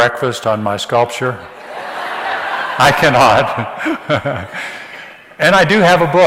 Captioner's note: audience laughs